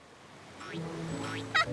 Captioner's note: boing! boing!; laughter continues